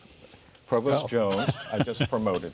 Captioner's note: laughing